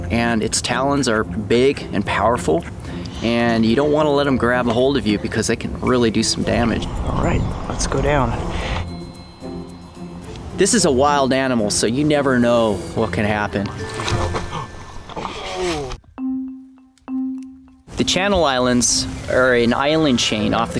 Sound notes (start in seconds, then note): 10.7 voiceover; 15.0 gasps and groans